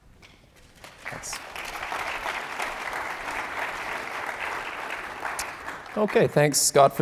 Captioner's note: applause